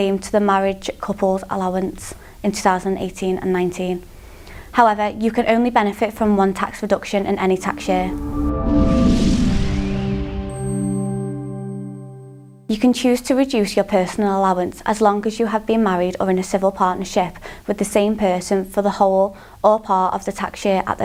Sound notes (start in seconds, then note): 7.2 melodic sting; 8.1 bell dinging